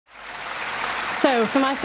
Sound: audience clapping

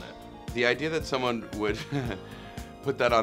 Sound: laughs

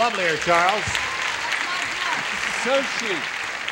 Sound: applause

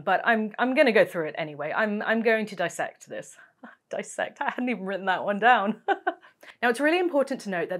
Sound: laugh

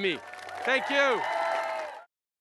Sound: applause

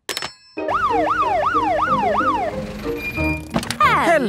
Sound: siren sounding

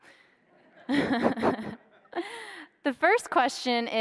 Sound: laughs

